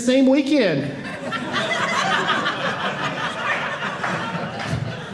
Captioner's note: audience laughing